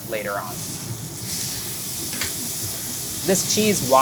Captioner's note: burger sizzles